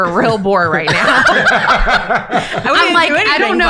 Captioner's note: laughing